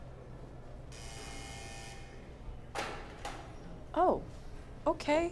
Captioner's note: doors buzzing